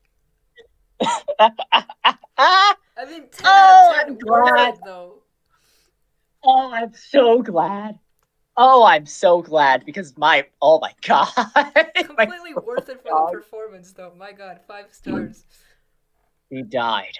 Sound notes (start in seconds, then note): 1.0 laughing in pain; 11.0 laughs